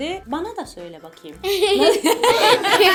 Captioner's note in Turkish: gülüşmeler